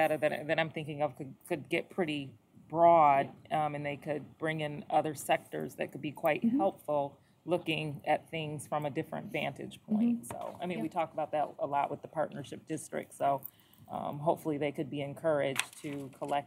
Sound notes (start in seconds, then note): none